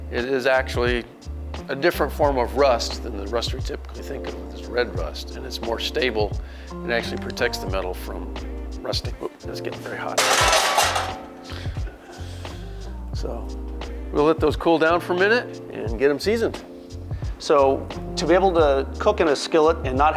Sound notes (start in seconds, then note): 10.1 metal clangs